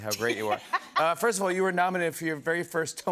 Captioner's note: laughter